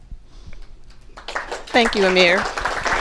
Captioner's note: applause